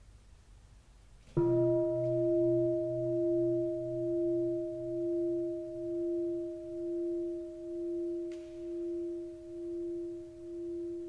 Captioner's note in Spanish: campana